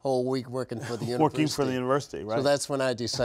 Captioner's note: laughs